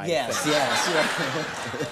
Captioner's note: audience laughing